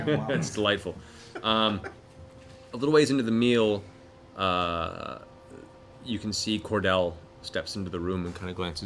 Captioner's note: chuckles